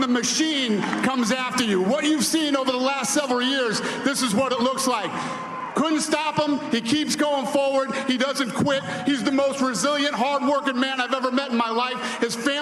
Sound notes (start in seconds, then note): 2.5 cheers and applause